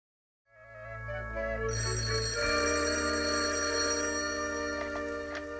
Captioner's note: phone rings